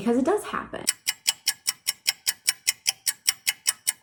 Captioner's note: ticking Sound